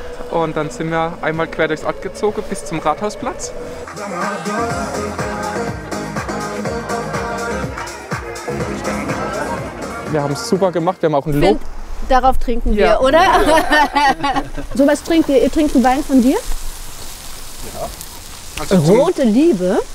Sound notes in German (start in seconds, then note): 3.8 Dynamische Musik; 13.0 Lachen